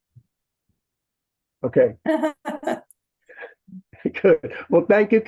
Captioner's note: laughs